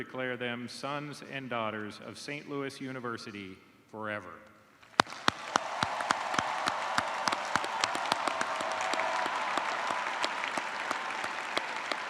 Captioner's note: cheers and applause